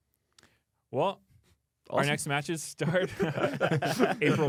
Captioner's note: laughs